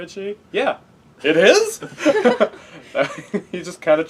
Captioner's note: laugh